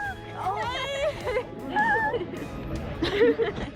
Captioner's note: laughs